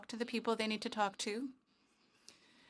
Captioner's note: speaking French